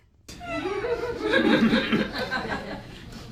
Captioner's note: audience laughs